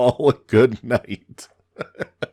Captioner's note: laughs